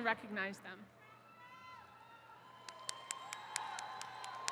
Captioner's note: attendees cheering